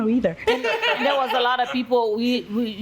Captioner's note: laughing